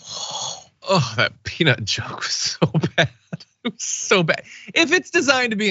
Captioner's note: laugh